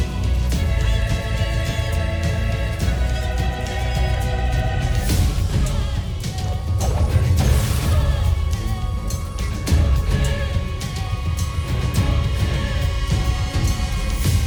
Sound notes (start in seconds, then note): 6.9 weapons swoosh; 8.6 music swells